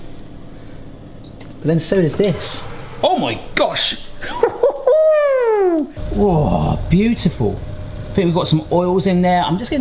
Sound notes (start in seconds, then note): 2.7 oven hums; 4.6 yells